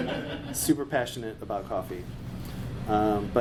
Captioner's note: laughing